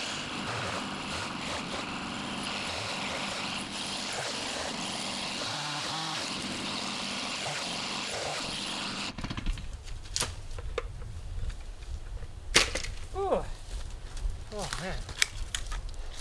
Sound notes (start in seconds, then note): 12.6 helmet thuds